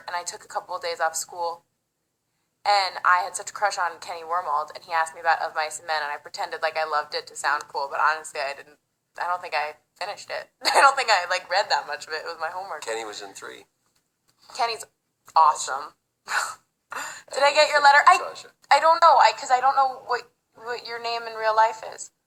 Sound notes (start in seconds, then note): 10.3 laughs